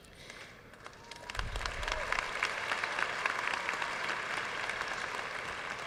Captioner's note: audience cheering and applauding